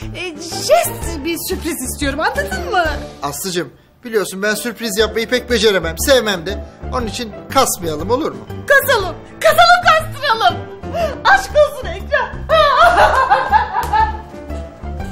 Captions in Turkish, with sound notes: ...jest bir sürpriz istiyorum. Anladın mı? Aslı'cığım, biliyorsun ben sürpriz yapmayı pek beceremem. Sevmemde. Onun için kasmayalım, olur mu? Kasalım. Kasalım, kastıralım. Aşk olsun Ekrem. [AĞLAMA SESİ]